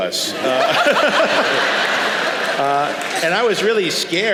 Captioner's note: laughter